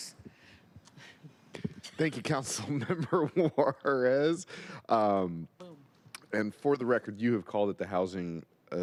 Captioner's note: laughter